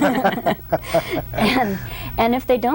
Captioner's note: everyone laughs